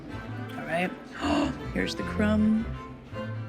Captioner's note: gasps